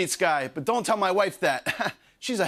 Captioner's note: chuckles